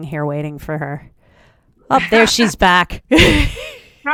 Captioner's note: both laugh